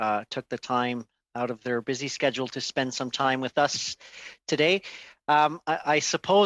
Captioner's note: speaking French